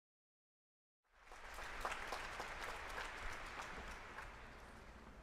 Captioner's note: applause